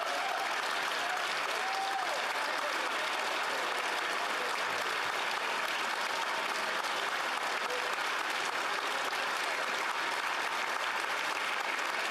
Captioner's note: applause